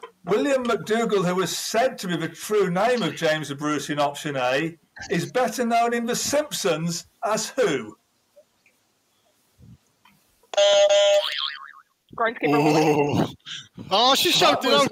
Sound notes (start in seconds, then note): 10.4 honk, honk; 11.0 boing